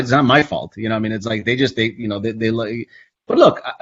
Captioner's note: stammers